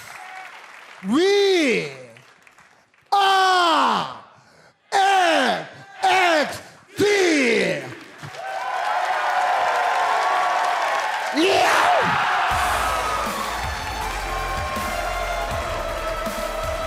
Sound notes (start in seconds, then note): 8.3 crowd cheering